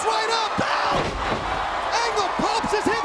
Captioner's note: mat thumping